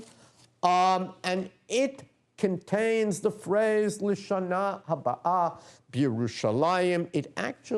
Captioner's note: non-english speech